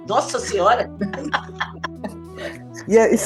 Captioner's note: laughter